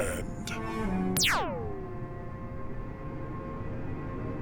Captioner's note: laser fire